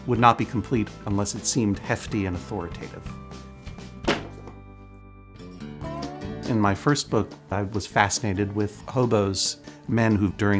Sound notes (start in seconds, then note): 4.0 books hit the ground